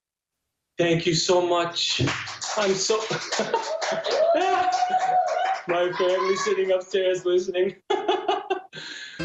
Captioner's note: applause, laughs